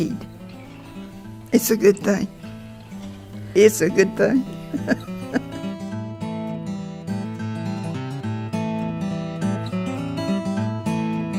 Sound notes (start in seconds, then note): 3.1 music fades; 3.6 chuckles